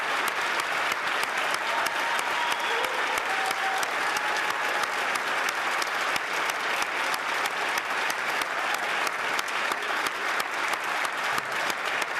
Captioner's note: cheers & Applause